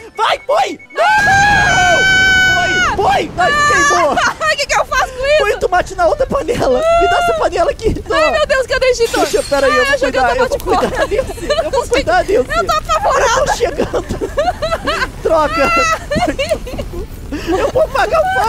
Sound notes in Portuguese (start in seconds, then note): 12.6 risos; 14.6 rindo muito